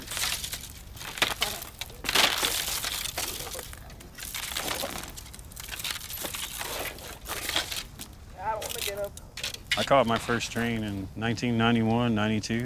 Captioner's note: fire burning